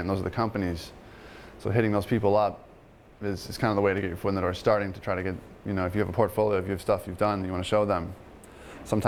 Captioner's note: none